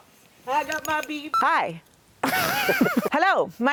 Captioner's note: laughs